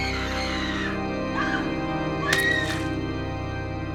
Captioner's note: screaming; blood spatters